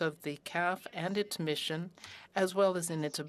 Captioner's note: speaking french